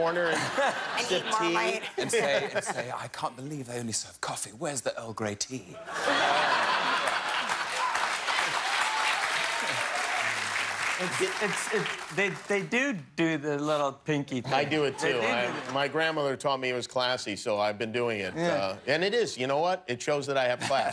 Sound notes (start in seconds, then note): 11.0 laughter; 12.4 applause